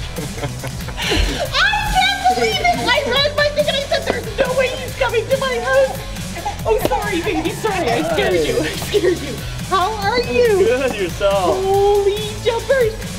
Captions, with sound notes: [Laughter] I can't believe it! There's no way he's coming to my house! [Crying] [Crying] Oh sorry, baby, sorry I scared you, I scared you. How are you? Good, yourself? Holy jumpers!